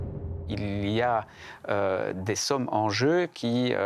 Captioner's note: French spoken audio